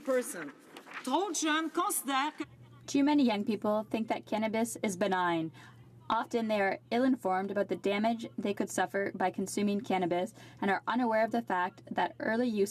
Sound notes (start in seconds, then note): 7.4 speaking French